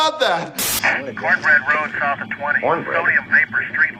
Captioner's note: radio dispatcher